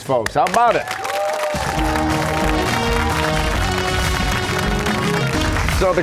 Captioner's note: cheers and applause